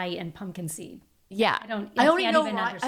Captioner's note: laughing